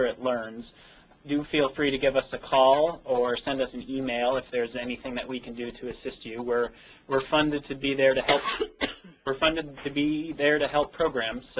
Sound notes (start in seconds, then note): 8.2 coughing